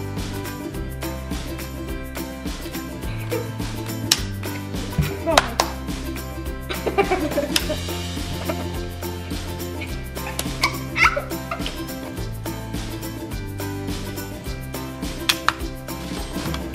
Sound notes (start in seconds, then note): 6.6 laughing